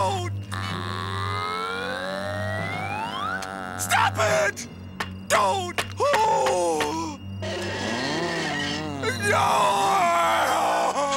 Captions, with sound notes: Aaa... Stop it! Don't! [gasps] [creaking] [screams]